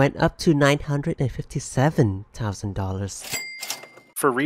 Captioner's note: cash register noise